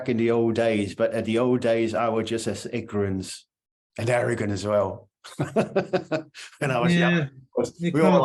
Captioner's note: laughing